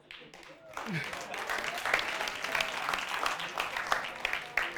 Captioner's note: audience applauding